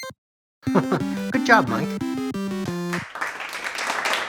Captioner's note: chuckles; scattered, polite applause